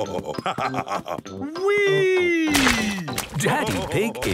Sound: splashes

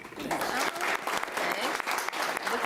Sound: applauding

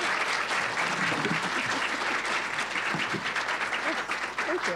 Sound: applause

